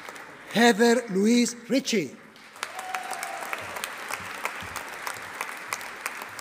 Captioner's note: audience applauding